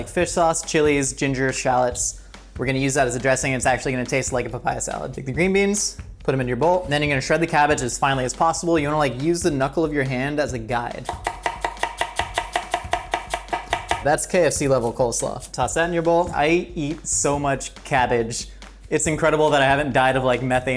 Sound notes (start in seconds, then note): 11.0 knife tapping